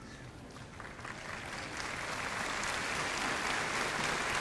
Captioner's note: audience applauding